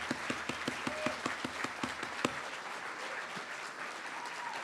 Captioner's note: applause